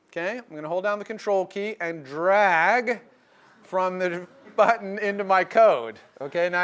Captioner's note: laugh